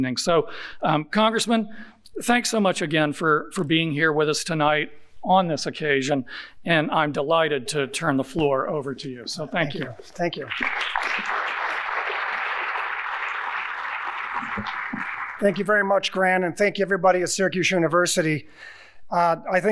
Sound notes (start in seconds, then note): 9.7 audience applauding